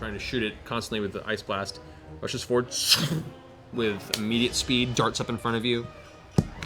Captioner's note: whoosh